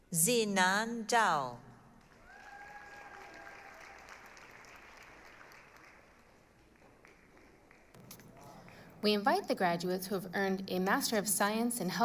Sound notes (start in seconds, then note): 2.0 applause, cheering